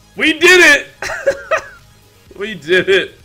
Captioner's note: laughs